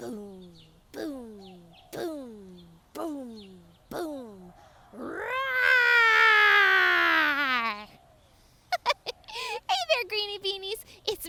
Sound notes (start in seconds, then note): 4.9 roaring; 8.7 giggles